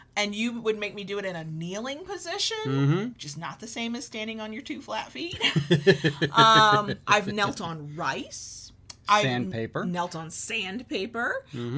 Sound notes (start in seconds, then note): 5.3 both laughing